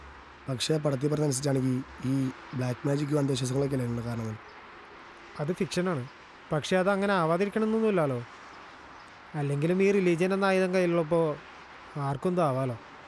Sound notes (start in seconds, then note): none